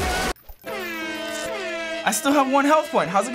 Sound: blaring; sad music

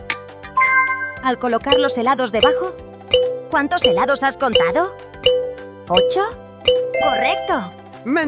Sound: clock

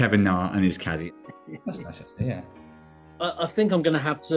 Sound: chuckling

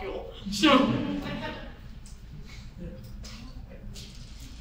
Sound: audience chuckles

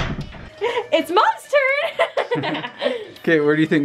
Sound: laughs

